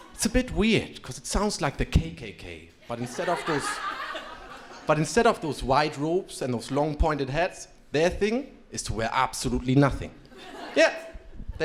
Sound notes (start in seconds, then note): 2.8 crowd laughing